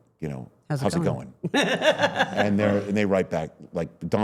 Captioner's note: laughs